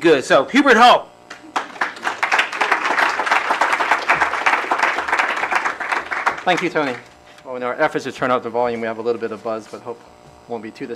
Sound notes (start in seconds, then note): 1.4 applause